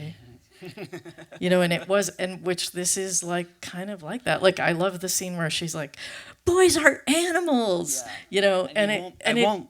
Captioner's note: laughs